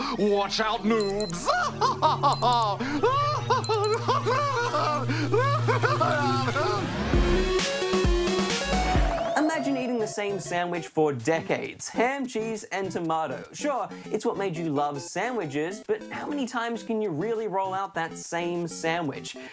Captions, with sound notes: Watch out, noobs! (LAUGHS MANIACALLY) Imagine eating the same sandwich for decades - ham, cheese and tomato. Sure, it's what made you love sandwiches, but how many times can you really roll out that same sandwich?